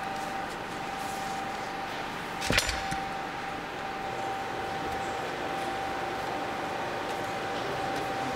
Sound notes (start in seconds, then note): 2.4 metal clinking